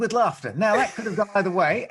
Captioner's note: laughs